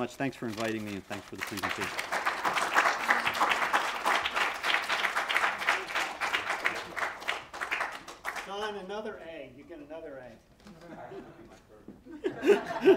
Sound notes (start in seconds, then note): 2.8 applause